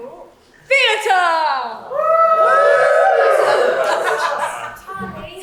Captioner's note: audience cheers